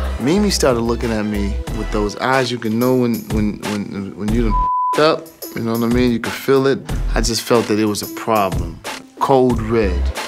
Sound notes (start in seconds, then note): 4.5 beep